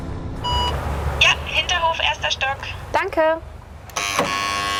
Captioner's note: intercom